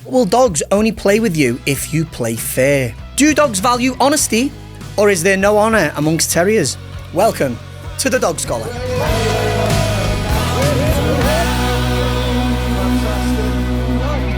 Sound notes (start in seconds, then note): 8.4 human vocalising; 9.0 upbeat music